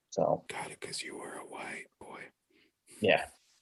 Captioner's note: whispers